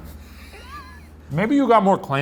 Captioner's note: laughing